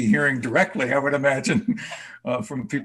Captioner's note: chuckles